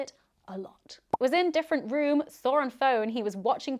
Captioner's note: popping